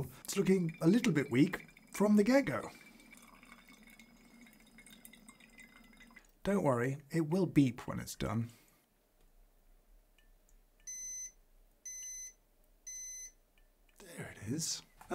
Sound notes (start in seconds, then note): 3.0 coffee plinking; 10.8 beep 1; 10.8 beep 2; 12.8 beep 3